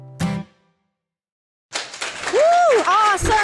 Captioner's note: audience clapping